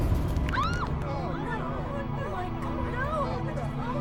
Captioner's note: loud crash; people gasping